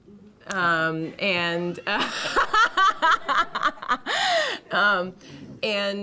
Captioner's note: laughter